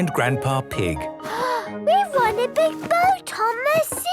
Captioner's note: gasps